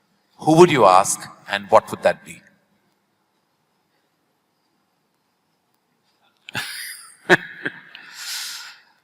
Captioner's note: Sadhguru laughs